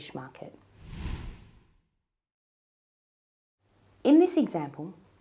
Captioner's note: whooshing